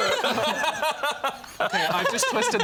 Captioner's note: laughing